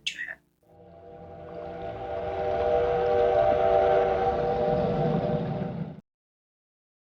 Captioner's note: sounds of train